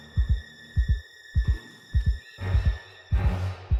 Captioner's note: heart beating